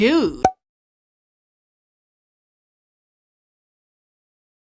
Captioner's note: string plopping